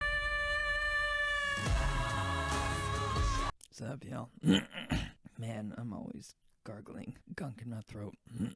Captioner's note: clears throat; clears throat again